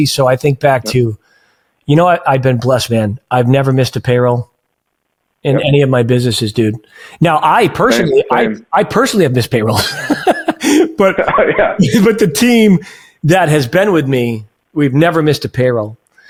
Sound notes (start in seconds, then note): 9.7 chuckles; 9.7 laughs